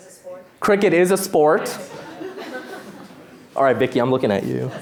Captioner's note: laughter